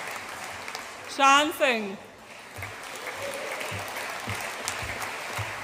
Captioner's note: audience applauds